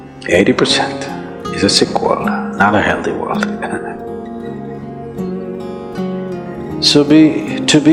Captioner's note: laughs